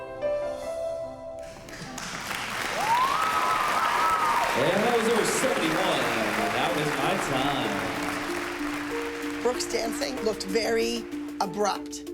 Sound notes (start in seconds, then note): 0.9 applause